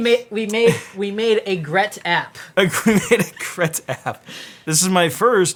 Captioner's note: laughs